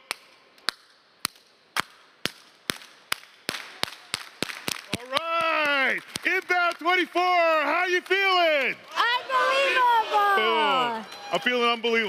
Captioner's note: clapping